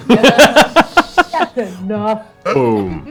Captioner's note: laughter